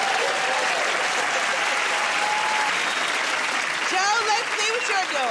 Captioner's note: cheers and applause